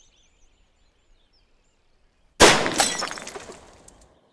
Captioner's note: gunshot